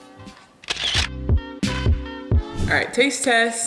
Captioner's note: camera clicks